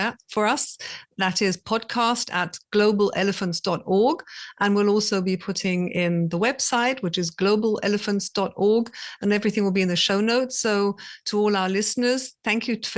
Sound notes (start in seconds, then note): none